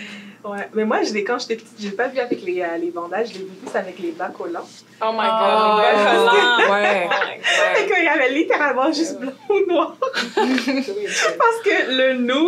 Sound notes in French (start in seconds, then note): 9.4 rires